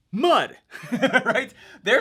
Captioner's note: laughing